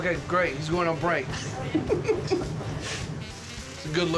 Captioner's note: laughter